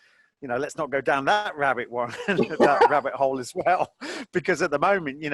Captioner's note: both laughing